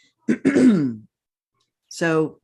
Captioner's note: clears throat